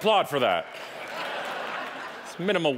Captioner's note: audience laughing